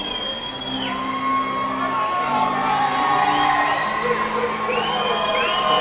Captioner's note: audience shouting and cheering